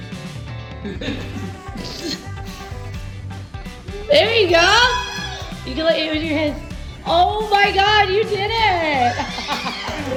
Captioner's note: cheering